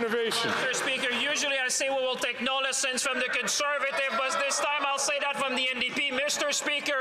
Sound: some Applause

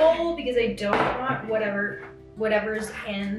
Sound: bowl thuds; bottle thuds

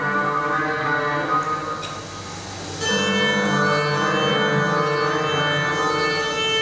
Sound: machines whirring

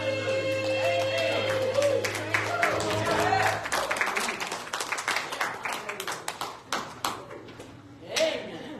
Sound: applause

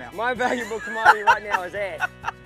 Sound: laughing

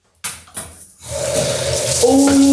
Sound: water runs

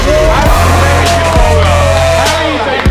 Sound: lads cheering

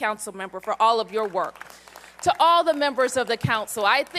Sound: applause

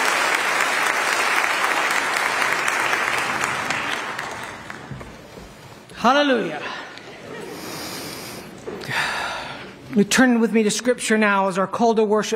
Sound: applause

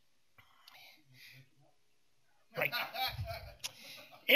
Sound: laughter

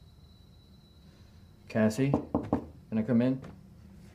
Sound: knocking on door

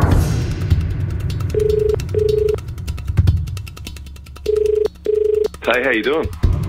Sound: phone rings

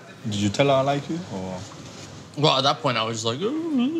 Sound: gurgles

